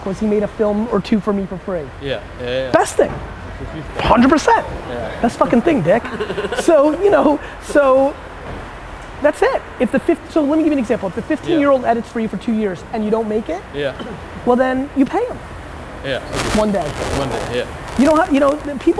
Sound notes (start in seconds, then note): 5.6 group laughter